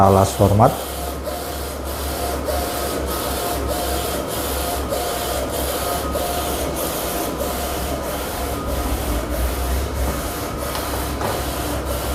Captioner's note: printer machine noise